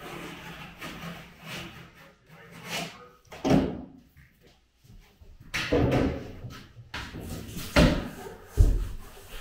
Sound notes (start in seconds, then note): 3.4 boards banging